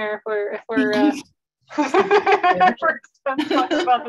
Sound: laughs

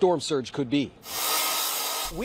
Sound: nats of drilling in plywood

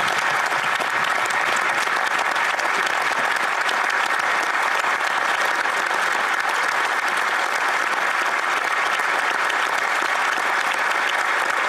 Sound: applause

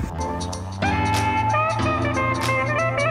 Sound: engine revving

